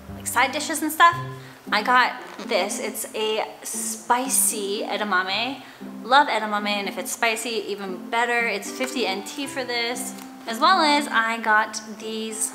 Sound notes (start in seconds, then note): 3.6 foreign language